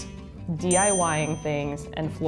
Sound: ringing bell

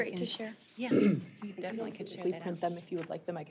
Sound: overlapping chatter

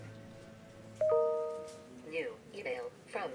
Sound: ping

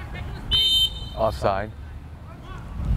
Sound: whistle blows

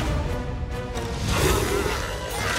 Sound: growls

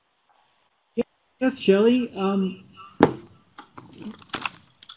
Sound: voiceover

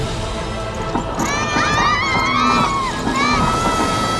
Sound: children screaming

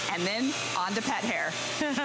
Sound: laughter

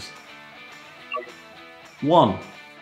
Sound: touchpad chimes

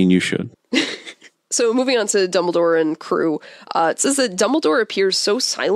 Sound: laughs

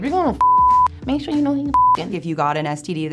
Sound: beep

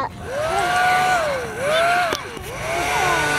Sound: vacuum whirs

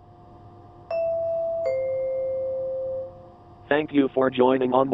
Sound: train announcement chime

